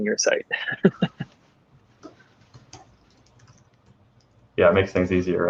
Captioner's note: laughing